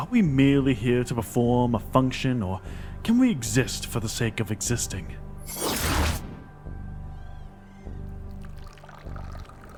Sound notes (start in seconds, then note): 5.5 summoning sounds; 8.4 liquid pouring